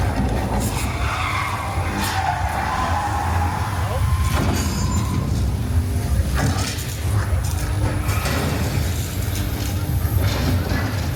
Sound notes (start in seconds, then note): 2.5 car crashing; 2.5 tires screeching